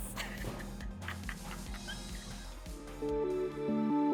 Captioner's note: laughs; atmospheric music